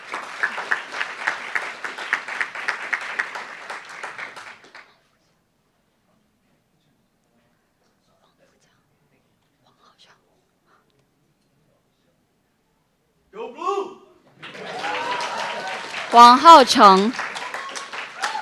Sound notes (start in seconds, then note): 0.0 applauds; 9.8 whispers; 14.4 cheers